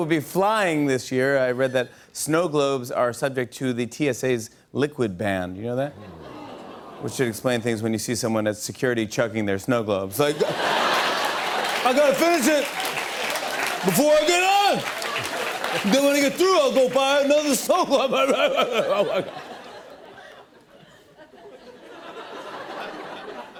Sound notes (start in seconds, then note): 5.2 audience groans; 9.8 laughter and applause; 10.7 drunken voice; 17.8 light laughter